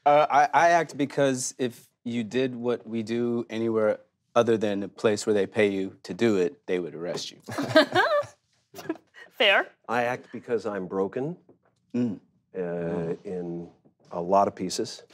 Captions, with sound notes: - I act because if you did what we do anywhere other than a place where they pay you to do it they would arrest you. - (laughs) Fair. - I act because I'm broken in a lot of pieces